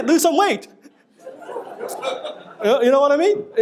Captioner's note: audience laughing